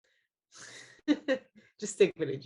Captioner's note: Javicia laughs